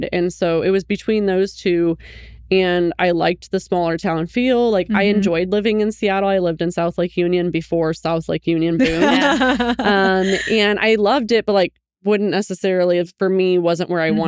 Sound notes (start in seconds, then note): 8.8 laughing